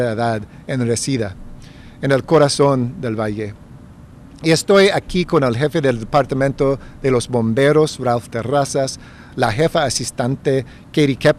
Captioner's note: remarks in spanish; speaking spanish